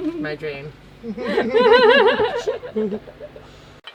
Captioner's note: laughs